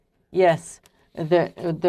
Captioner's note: speaking French